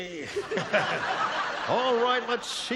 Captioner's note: laughter